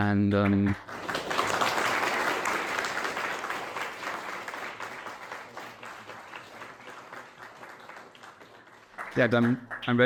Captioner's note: clapping